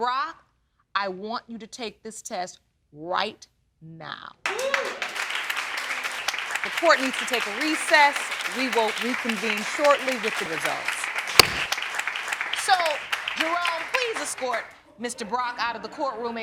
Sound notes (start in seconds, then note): 4.4 applause; 11.4 gavel bangs